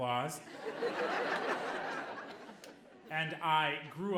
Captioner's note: audience laughing